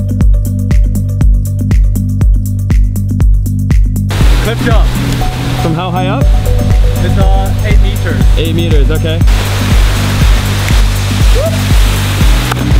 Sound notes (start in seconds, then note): 0.1 mellow electronic groove music; 10.6 fingers snapping